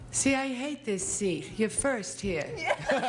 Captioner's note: Bert laughs